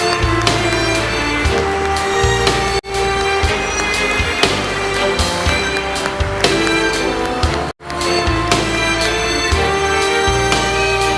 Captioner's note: applause